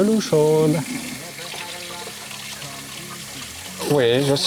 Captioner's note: water flowing